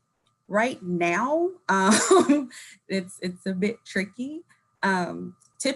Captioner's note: laughing